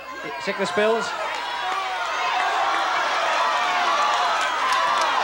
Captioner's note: audience shouting